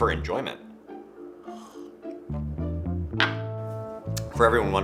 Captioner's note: beer slurping